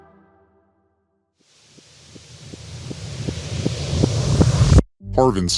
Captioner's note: rising hiss